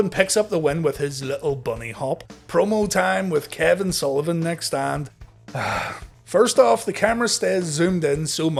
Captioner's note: sigh